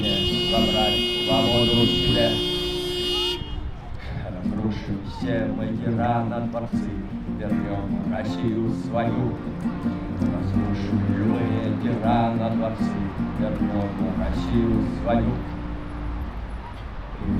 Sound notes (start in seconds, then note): 2.6 supporting honks